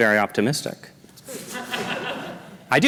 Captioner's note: laughter